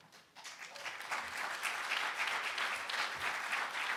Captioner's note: applause